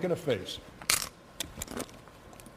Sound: crunch

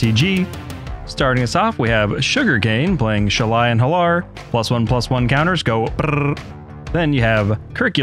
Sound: brrrrr

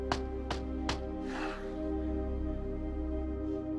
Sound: sighs

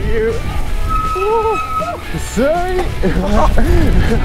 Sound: laughter

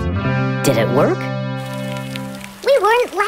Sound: rain

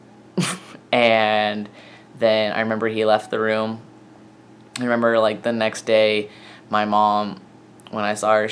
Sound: chuckle

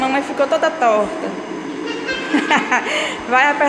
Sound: laughs

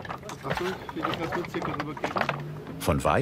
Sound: scratching of the stones, distant voices

